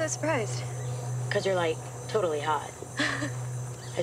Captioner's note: chuckles